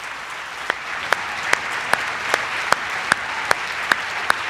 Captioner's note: the audience applauds